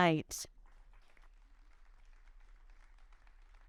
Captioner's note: audience applauding